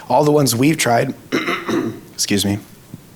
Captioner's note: clears throat